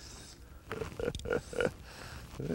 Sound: laughter

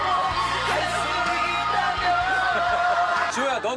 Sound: laughing

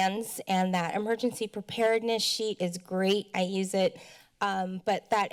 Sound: speech breath

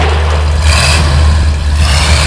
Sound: slam; engine revs

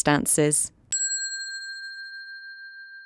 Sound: bell dinging

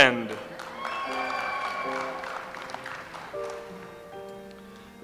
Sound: audience applauds

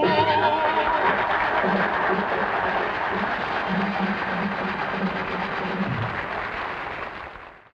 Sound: audience applauding

